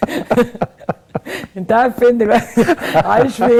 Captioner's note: laughs!